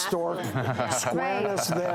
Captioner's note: audience laughs